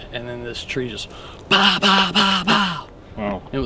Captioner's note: mimics knocking sound